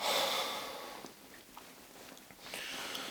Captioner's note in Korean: 한숨